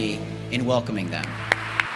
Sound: applause

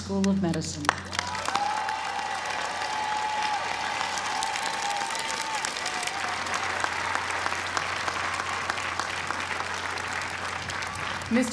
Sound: applause

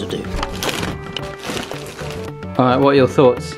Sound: bag crinkling noises

